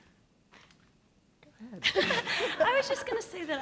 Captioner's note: laughs